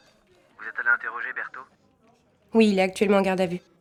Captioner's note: on the phone